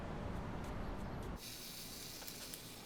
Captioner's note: camera timer whirring